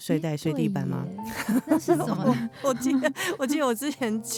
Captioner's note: haha